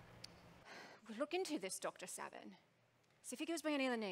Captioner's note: sighs